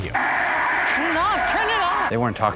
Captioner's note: radio static